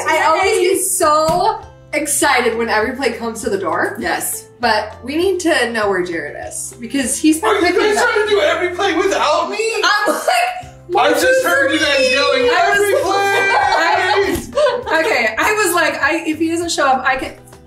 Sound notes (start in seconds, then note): 12.7 light shirt laughing